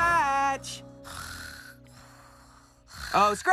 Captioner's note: light Snoring